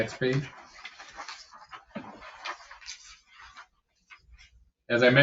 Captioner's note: papers rustling